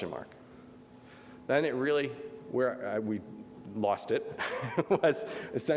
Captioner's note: laughs